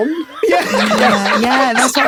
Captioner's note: both laugh triumphantly